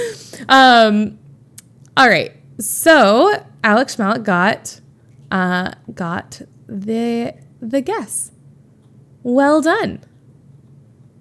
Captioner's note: Emma laughs